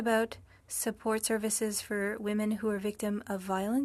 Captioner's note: speaking french